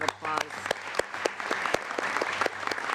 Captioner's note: applause